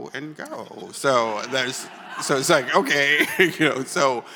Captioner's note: chuckles